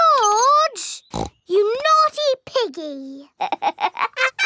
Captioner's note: snorts; laughs